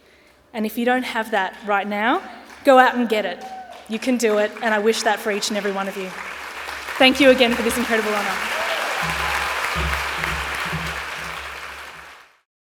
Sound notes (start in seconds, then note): 8.6 applause